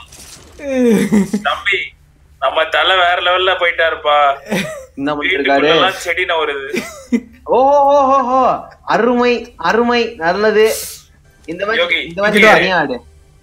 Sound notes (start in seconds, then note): 6.5 laughs